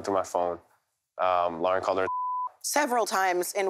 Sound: beep

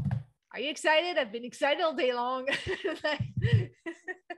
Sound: laughs

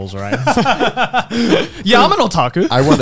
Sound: both chuckling

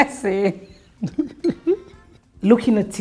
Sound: laughs

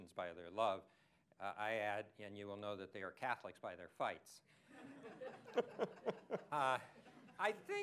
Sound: laughter

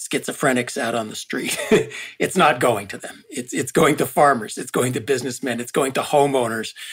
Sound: laugh

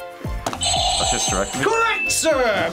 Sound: buzzer rings

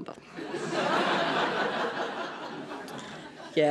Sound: laughter

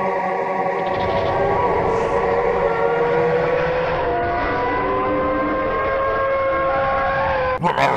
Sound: low crackling, followed by deep hum and mesmerizing, unintelligible chorus; eldritch wailing comes through, drowning all

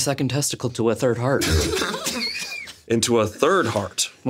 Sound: everyone laughs

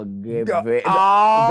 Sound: gagged

